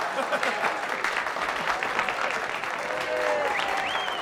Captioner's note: cheering and applauding